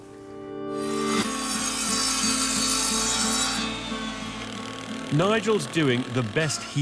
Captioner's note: upbeat music; machine whirring